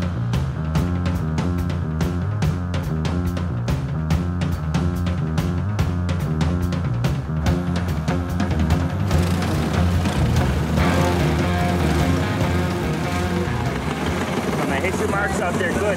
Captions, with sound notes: [ENGINES REVVING] HIT YOUR MARKS OUT THERE GOOD